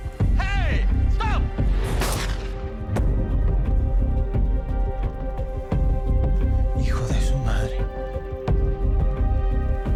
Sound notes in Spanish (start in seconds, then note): 1.9 Disparo